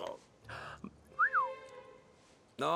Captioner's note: whistles